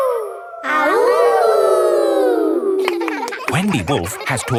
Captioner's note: howling; kids howling